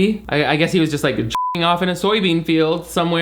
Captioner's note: beep